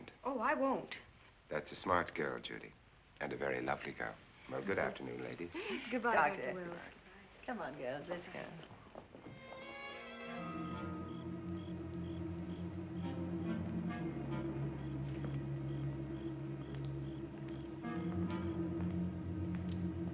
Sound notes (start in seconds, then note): 9.5 light music; 10.9 crickets chirping